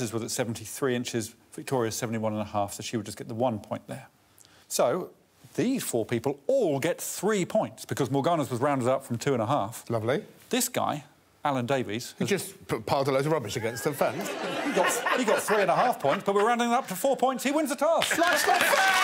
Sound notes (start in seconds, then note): 13.6 audience laughing